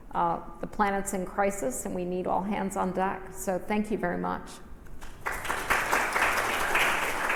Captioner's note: audience applauds